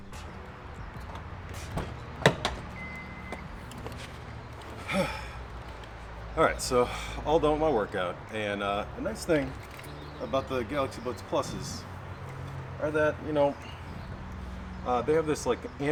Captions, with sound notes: (door opening) - Huh! All right so, all done with my workout and the next thing about the Galaxy Buds Plus are that, you know, they have this, like,